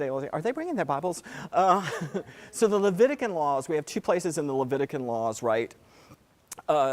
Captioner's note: laugh